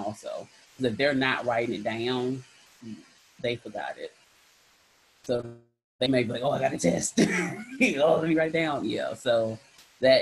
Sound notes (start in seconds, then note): 7.2 laughs